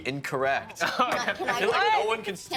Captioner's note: laughing